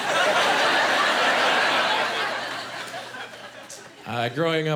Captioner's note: laughing